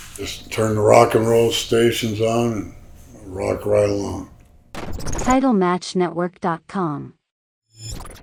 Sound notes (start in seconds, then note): 4.7 electricity crackles